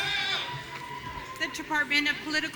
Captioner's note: audience cheering